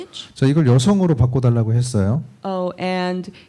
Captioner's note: speaking korean